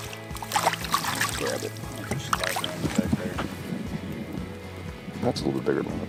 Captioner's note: water splashing; water splashing